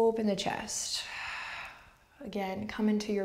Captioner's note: deep breathing